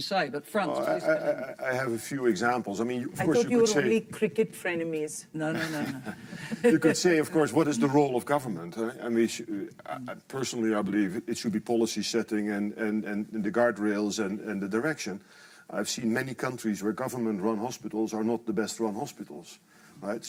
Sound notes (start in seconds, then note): 5.5 panelists laughing